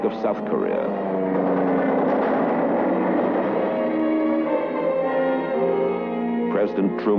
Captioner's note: airplane noises